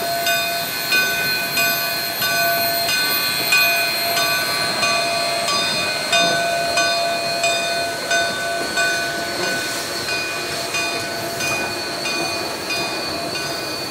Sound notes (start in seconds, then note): 0.0 train clanking